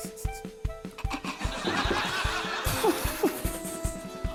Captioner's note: laughs; both laugh